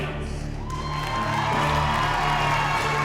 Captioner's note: cheering, applause